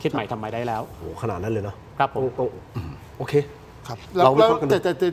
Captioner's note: clears throat